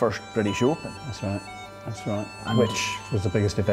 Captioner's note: with British accent